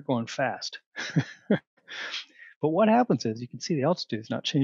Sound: laughter

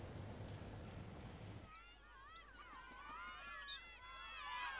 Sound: crowd shouting

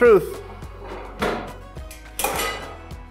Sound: handle clicks, metal clangs; upbeat music

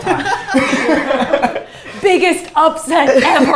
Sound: laughter

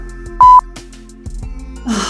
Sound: beep

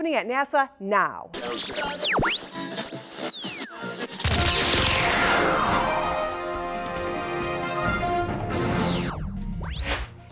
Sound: sound Effects

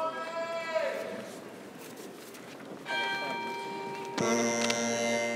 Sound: bell rings; bagpipe music

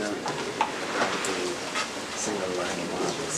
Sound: background chatter

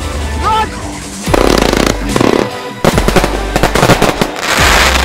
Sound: festive music; fireworks exploding

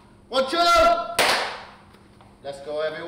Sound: claps

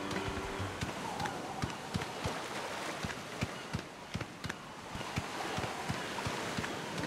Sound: footsteps

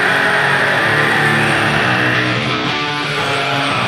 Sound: screams

